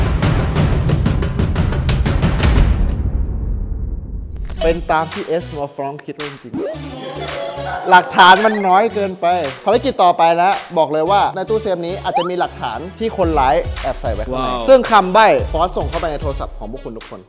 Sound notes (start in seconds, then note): 6.9 laughs